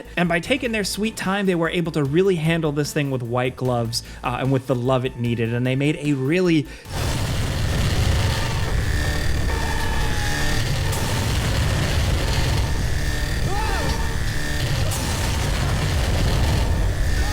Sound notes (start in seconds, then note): 6.9 laser blares; 6.9 alarm rings; 13.7 character screaming